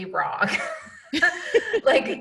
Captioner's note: laughing